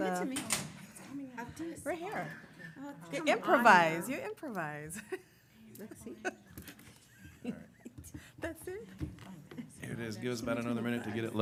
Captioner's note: laughter